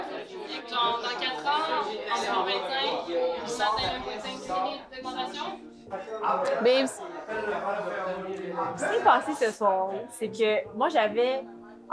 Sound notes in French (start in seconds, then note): 0.0 brouhaha de voix toujours; 5.9 brouhaha de voix